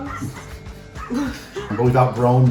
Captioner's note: laughing